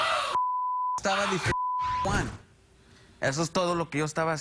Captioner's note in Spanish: Gritos y golpes